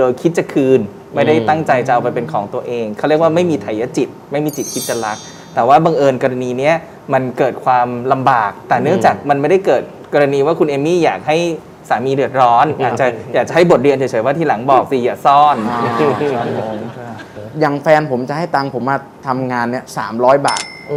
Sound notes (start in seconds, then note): 15.5 laughing sound